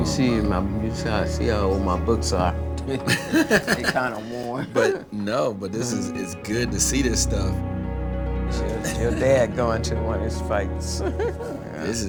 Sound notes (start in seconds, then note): 2.6 laughing; 10.6 laughs